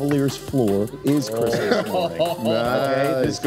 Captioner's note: talking and laughing at the same time